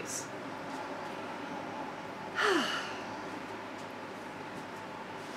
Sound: sigh

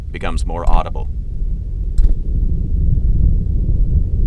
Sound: wind sounds

